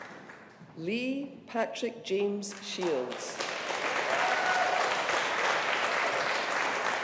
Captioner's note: audience applauding